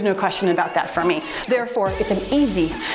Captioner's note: timer beeps